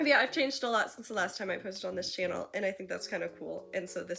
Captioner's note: none